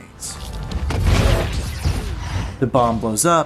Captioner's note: explosion